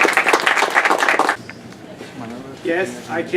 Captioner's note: applause